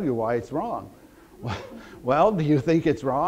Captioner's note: audience laughter